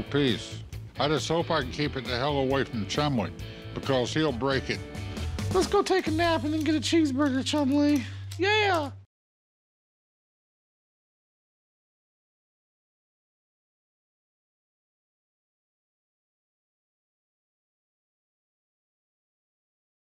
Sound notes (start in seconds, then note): 4.5 Chumlee mimicking Alvin